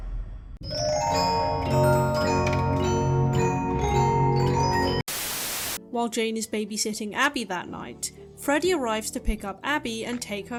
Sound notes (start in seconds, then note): 5.0 static